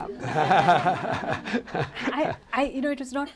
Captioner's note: laughter